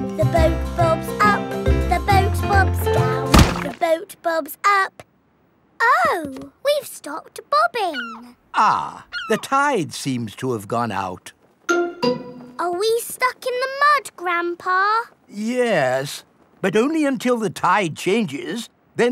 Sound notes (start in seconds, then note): 3.3 thuds